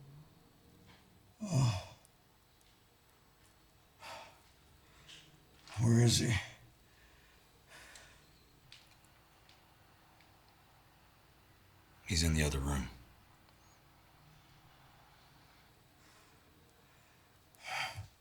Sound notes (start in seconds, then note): 1.4 Anderson groaning